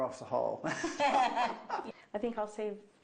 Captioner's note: laughing